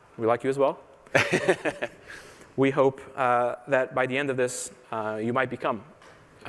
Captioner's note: laughter